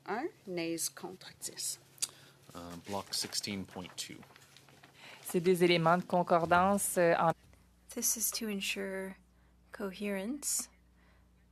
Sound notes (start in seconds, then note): 4.7 speaking French